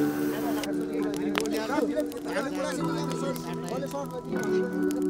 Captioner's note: indistinct chatter